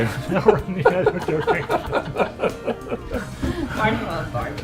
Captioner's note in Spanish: risas